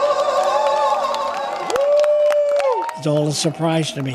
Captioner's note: attendees cheering